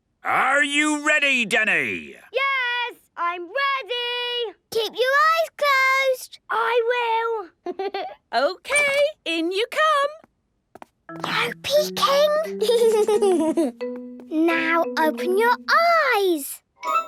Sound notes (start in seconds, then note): 7.2 Danny laughing; 10.9 whispering; 12.5 Danny giggling